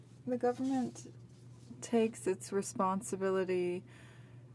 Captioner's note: speaking french